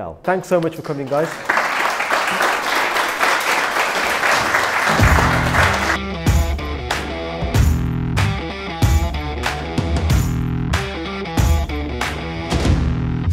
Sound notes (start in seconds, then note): 0.6 applause; 4.5 rock music